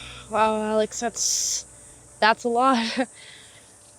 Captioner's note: sighs